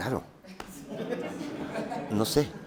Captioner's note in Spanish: Risas